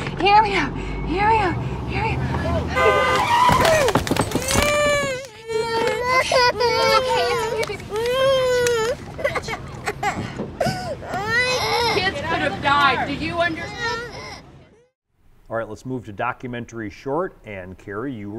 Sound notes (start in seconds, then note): 2.8 brakes wailing; 2.8 hooting; 6.4 baby crying